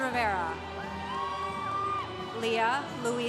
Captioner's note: congregation cheering